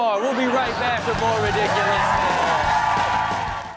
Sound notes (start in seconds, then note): 2.3 audience cheering; 2.3 rock music